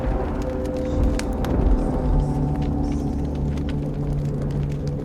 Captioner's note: mysterious music; eerie whispering